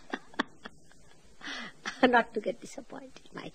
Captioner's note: laughing